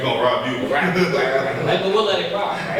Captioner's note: group laughs